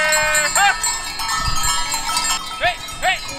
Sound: bells clanging and shepherd calling at goats

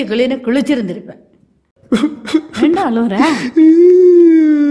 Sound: crying

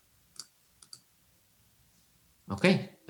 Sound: mouse clicks

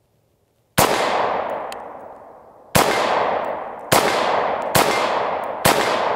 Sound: gun shots

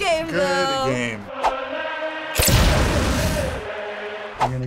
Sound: explosion

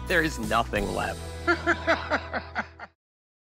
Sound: laughs

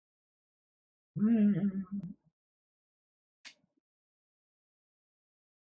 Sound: hums

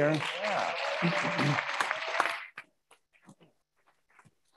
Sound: attendees applauding

